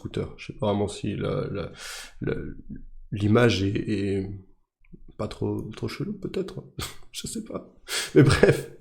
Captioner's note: laughs